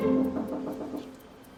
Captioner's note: knocks gently